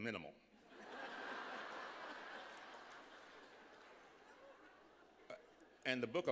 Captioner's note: laughter